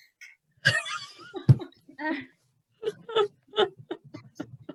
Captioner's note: laughter